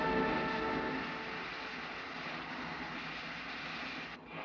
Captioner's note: steam hisses